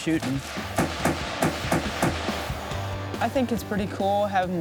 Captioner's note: gunshots blasting